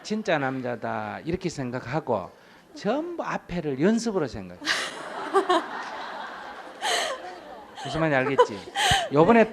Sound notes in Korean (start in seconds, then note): 4.7 청중 웃음